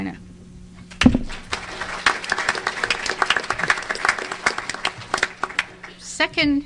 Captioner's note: applause